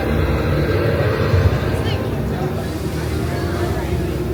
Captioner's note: sound effects blare